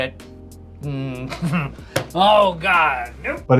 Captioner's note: man chuckling